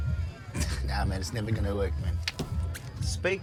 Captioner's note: Fillus scoffs